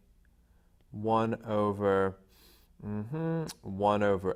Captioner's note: murmuring